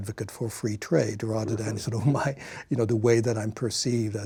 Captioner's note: chuckles